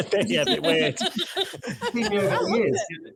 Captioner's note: chuckles